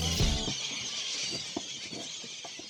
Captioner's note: birds screeching, feeding